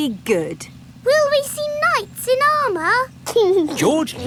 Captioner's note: giggling